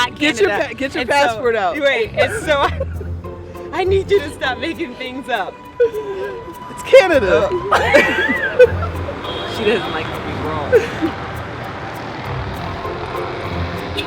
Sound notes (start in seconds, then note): 1.8 laughs; 9.4 laughter